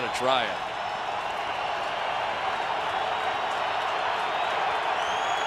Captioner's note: cheering